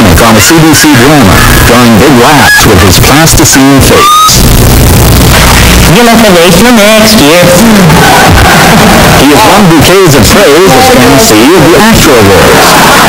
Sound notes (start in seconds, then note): 7.5 mockingly; 7.6 laughs